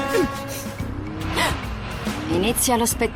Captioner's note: gasps